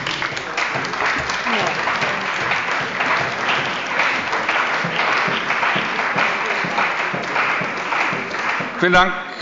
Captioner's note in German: Beifall bei der CDU und dem BÜNDNIS 90/DIE GRÜNEN